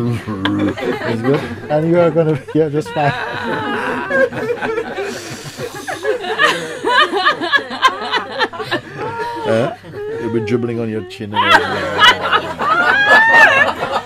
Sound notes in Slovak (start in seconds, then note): 3.3 Smiech